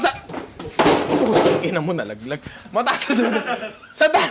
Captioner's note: laughter